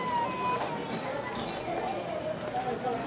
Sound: baby cries

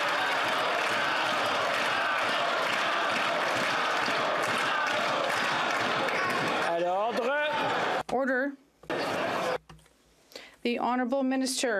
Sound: chanting

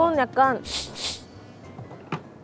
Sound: sniff

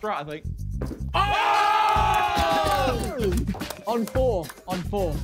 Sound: men yelling

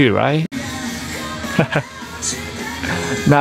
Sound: chuckles

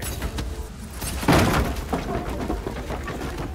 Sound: door slams

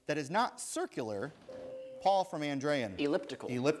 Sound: ding

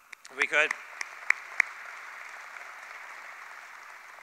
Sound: applause

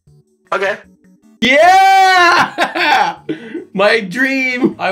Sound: robot voice; laughing

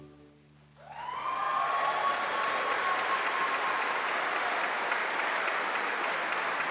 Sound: bright music continues; audience applauding; audience cheering

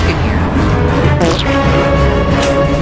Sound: banana squish

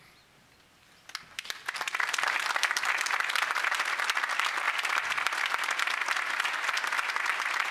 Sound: applause

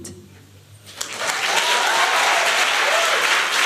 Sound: applause

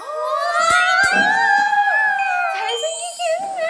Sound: squealing

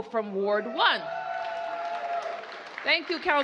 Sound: applause

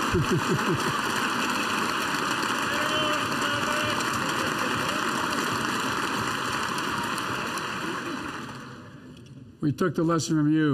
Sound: laughs

